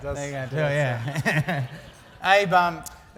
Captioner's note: laugh